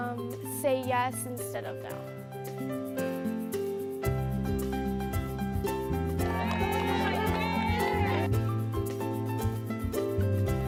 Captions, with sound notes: say yes instead of no. (gentle, upbeat music) (cheering)